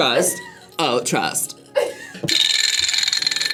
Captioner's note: React laughs; vibraslap rattles